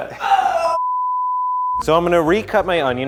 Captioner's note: beep